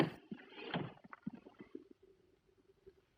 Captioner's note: none